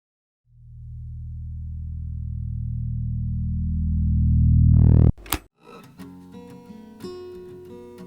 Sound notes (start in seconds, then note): 5.2 click